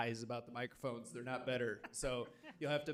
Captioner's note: laughing